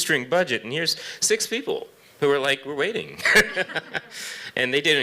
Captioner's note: chuckles